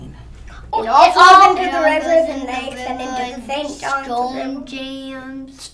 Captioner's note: children chatter excitedly